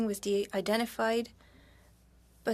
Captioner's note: speaking French